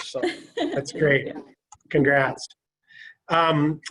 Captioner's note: laughter